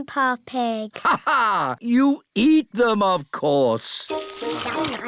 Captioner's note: laughs